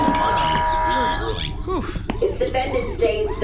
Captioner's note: Pleck exhales